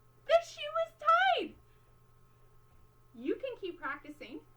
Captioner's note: gasp